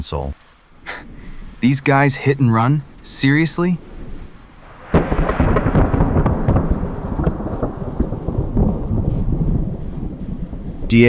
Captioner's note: scoffing